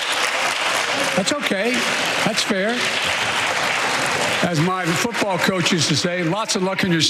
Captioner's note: applause